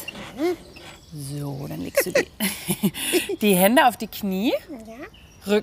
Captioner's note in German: lacht